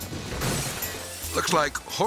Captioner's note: glass shattering